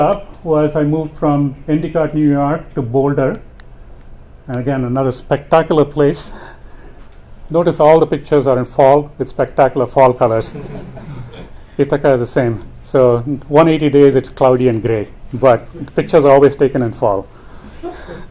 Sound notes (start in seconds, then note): 10.4 chuckles